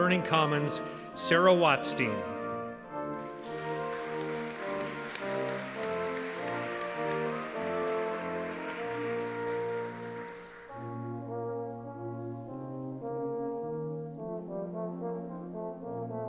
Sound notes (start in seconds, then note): 6.5 audience applauding; 13.5 gentle music